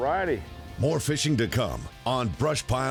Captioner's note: voiceover